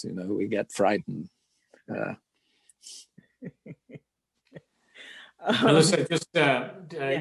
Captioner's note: laugh